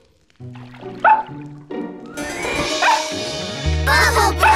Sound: barking

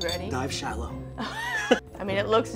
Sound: laughs

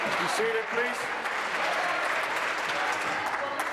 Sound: applause

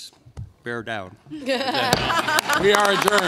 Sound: laughter and applause

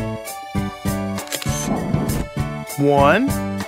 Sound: SFX: Camera Shutter

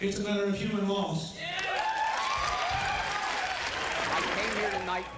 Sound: idiot Crowd Cheers

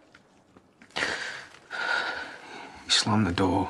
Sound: Aaron takes a shaky breath

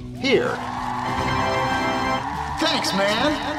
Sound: audience raving

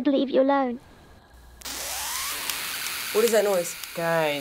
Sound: sharp distorted buzzing

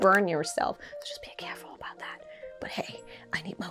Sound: whisper

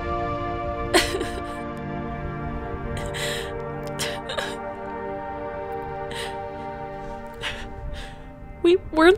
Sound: Caroline crying

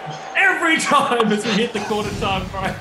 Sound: laughing

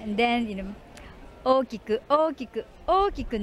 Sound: speaking in foreign language

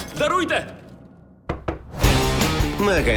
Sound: knock

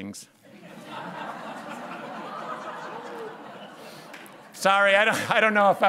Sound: laughter

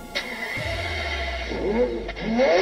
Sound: car revving

